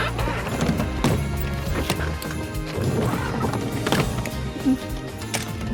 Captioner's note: suitcases thudding